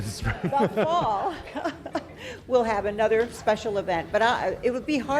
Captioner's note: laughs